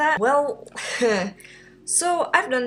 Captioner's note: laughs